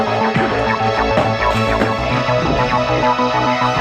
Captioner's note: punch smacks